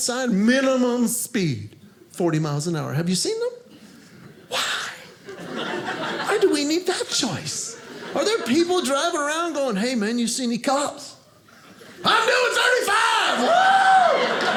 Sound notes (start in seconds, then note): 5.2 audience laughing; 13.8 audience laughing